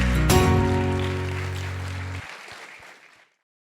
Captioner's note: applause